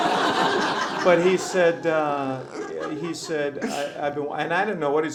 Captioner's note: laughter